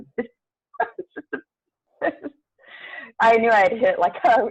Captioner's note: laughs